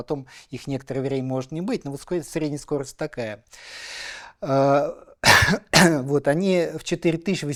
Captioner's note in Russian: кашель; откашливается